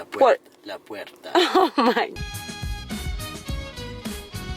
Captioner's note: girlfriend laughing; upbeat music